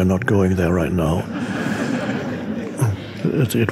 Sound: audience laughing

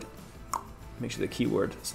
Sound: clicks tongue

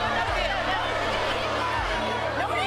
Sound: crowd chants

